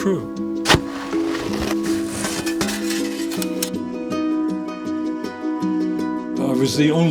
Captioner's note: gentle lively music; snow crunches; slide clicks